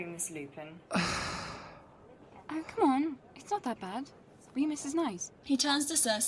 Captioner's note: Regulus sighs